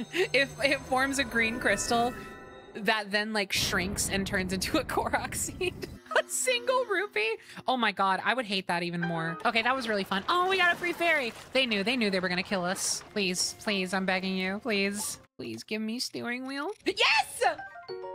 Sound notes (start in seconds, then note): 0.2 laughing; 5.5 laughter